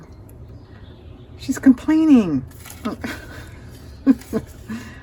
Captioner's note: laughs